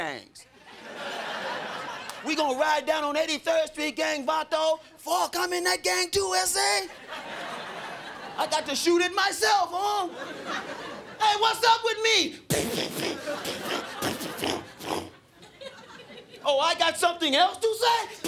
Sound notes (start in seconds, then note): 0.6 crowd laughing; 12.4 mouths gun sound; 18.1 mouths gun sound